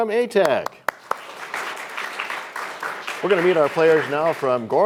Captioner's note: applause